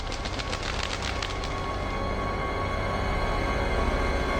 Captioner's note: birds flapping